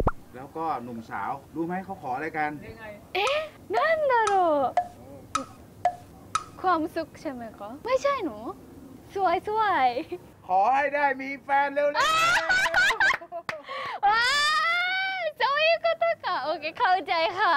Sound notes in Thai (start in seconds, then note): 12.0 เสียงหัวเราะ